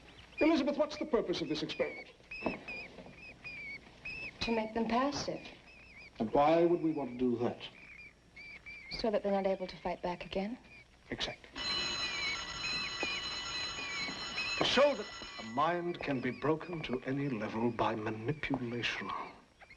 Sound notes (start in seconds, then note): 11.5 school bell ringing